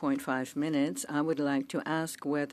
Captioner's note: speaking French